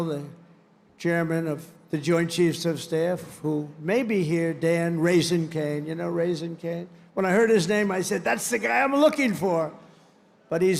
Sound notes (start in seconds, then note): none